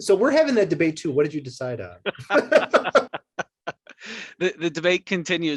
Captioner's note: both laugh